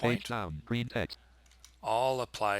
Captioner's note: JAWS reading quickly